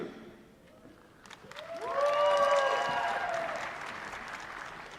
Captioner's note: applause